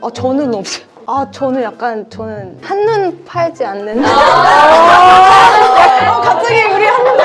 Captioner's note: laughter